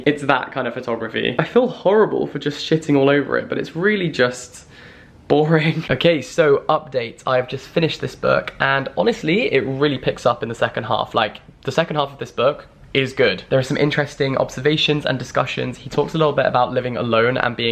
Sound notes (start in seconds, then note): 5.4 laughs